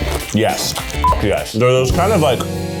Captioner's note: beep